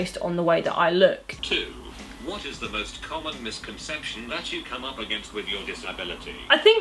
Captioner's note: text to speech